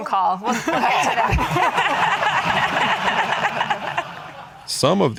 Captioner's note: audience laughing